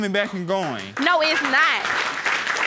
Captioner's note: audience clapping